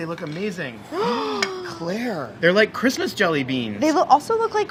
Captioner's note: gasps